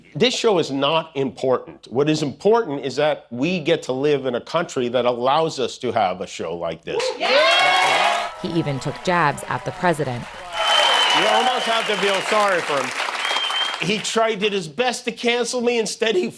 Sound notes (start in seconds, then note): 6.9 cheering